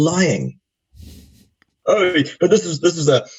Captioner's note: chuckling